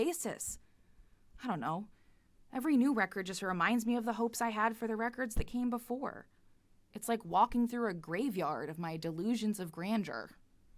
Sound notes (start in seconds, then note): none